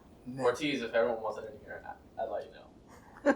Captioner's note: laughing